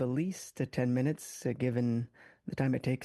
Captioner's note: speaking French